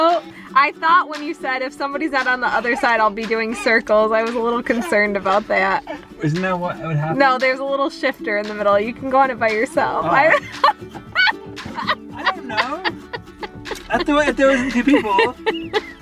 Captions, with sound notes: I thought when you said if somebody's out on the other side, I'll be doing circles. I was a little concerned about that Isn't that what would happen? No- there's a little shifter in the middle. You can go on it by yourself (laughter) I don't know! I thought if there wasn't two people